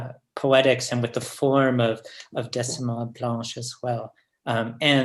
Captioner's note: french